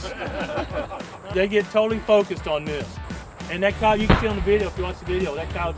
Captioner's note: laughter